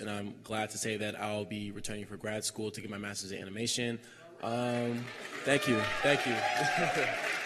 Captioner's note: cheers and applause